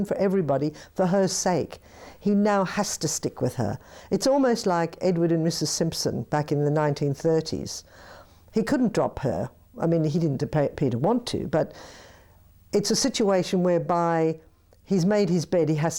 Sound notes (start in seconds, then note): none